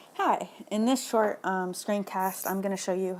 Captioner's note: voiceover